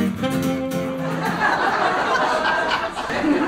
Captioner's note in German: Lachen